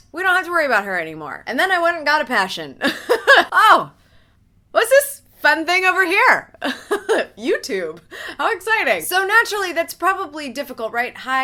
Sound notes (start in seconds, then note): 2.9 laughs; 6.7 laughs